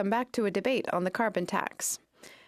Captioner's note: speaking French